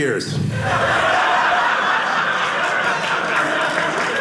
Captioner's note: audience laughing; audience applauding